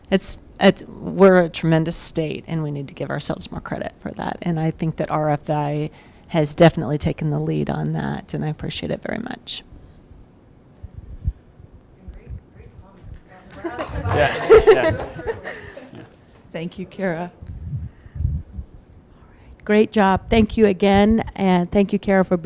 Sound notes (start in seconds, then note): 13.5 audience chattering; 13.5 laughing